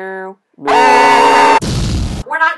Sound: moooooooooooo; ahhhhhhhhhh; BOoM

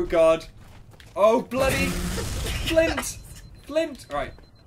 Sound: laughs

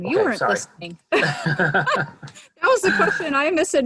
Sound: laughs

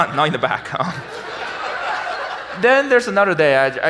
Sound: audience laughs

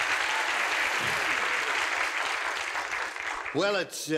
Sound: applause

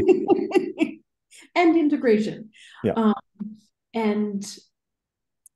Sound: laughing

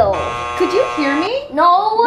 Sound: buzzer buzzing

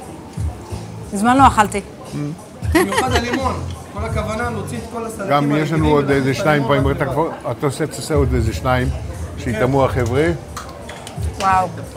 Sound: Speaking Hebrew

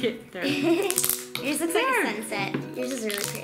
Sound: laughs

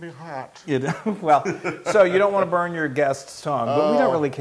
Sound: laugh

